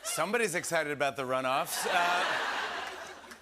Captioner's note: laughter